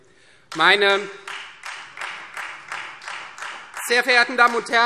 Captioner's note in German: Beifall Freie Demokraten